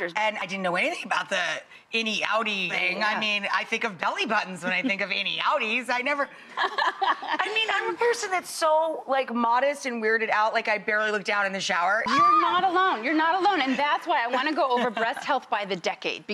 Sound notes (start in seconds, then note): 6.9 laughing; 11.9 screaming